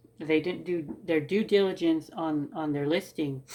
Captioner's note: none